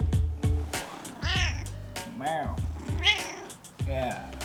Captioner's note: cat meows